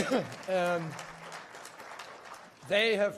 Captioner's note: applause